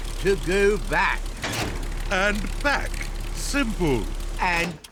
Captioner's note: lever clunks